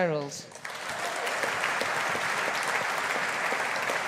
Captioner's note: audience applauding